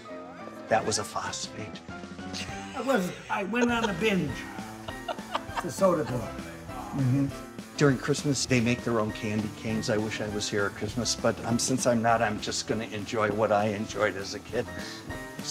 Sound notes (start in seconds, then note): 2.4 cameraman laughing